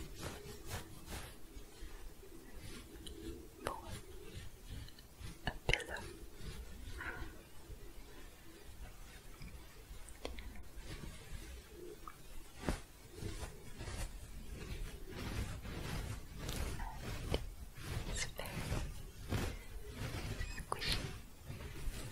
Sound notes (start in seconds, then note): 0.2 scratching; 6.4 genlt shuffling, then louder scratching; 21.8 scratching